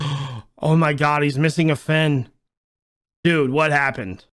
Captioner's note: gasp